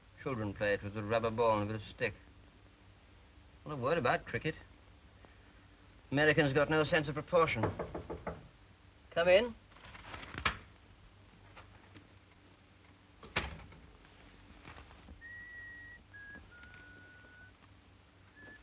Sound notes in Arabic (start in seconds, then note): 7.5 يطرق الباب; 9.7 حفيف الورق; 13.2 يغلق الباب